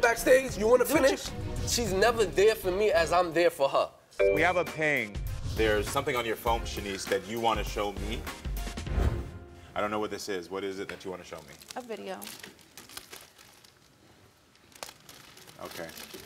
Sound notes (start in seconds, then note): 3.6 screen dinging